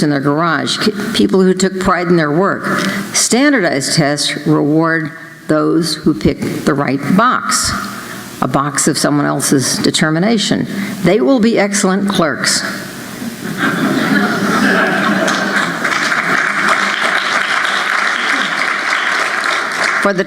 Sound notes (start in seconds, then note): 13.4 laughter; 15.0 applause